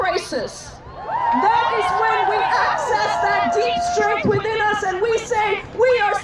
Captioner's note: cheering